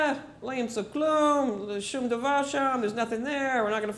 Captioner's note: speaking hebrew